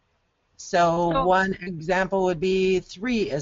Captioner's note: voiceover